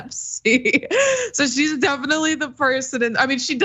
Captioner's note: laugh